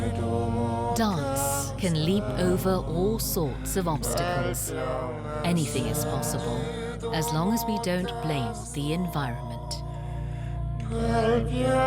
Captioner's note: voiceover